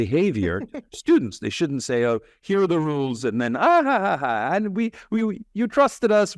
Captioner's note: laugh